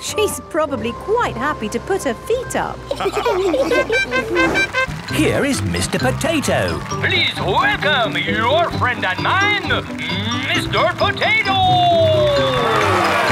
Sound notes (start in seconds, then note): 2.9 all laughing; 3.7 horn tooting; 13.1 cheering